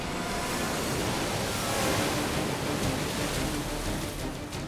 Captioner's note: wave crashes